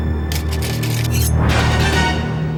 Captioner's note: clanking; suspenseful crescendo